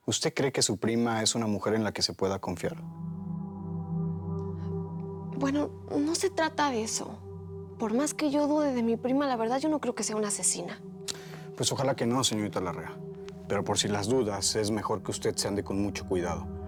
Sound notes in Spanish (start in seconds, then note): none